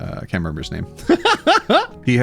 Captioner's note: laughing